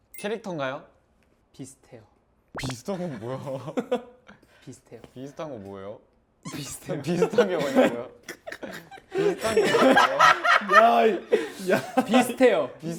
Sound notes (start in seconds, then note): 5.1 laughs at his own answer